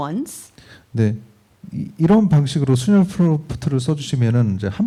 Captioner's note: speaking korean